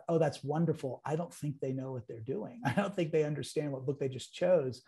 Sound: laughs

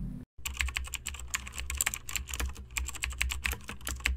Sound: asmr typing sounds

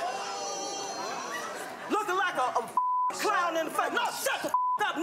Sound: beep

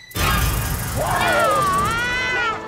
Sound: screaming

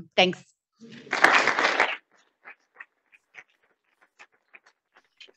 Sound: audience applauding

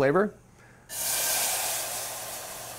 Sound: pan Sizzles

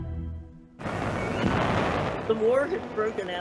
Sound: cannon blasting

